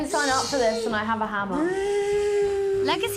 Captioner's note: mimics drill